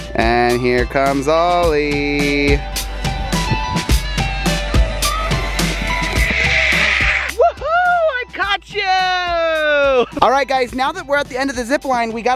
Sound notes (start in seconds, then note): 5.2 yells